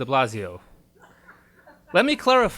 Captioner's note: audience laughs